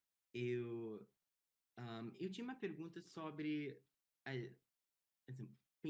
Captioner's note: speaking in Portuguese